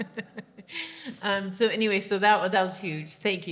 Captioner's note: laughing